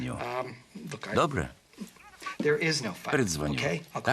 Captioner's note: chuckles